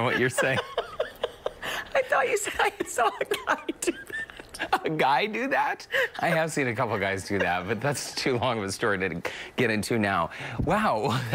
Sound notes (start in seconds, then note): 0.0 laughter; 10.6 laughter